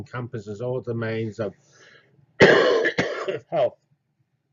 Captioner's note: cough